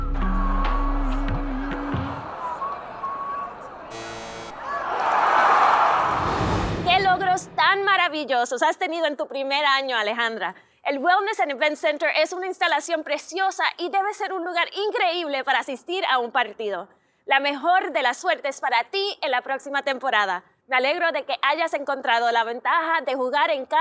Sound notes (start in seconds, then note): 0.0 upbeat music ends; 3.9 buzzer and crowd cheering